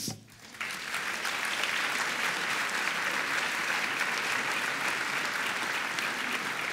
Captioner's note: audience applauding